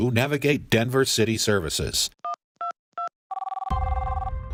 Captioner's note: beep, beep, beep, ringing